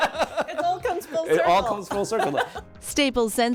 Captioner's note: laughter